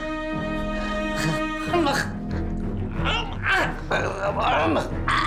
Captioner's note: Gregore chokes; speaks foreign language